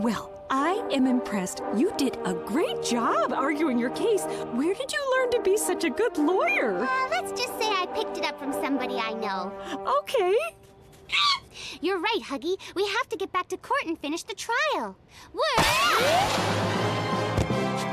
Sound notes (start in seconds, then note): 11.7 Huggy screeches